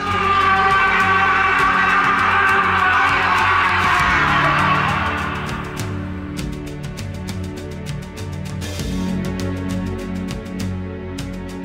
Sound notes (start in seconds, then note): 0.0 battle cries